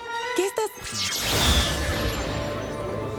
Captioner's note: zap